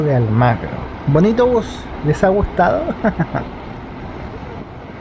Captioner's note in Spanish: risas